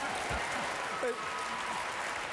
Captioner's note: applause